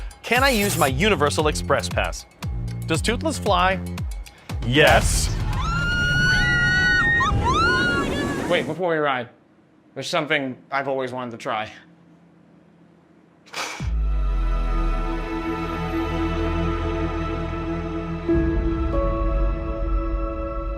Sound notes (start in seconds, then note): 5.5 riders screaming; 13.9 soft bright music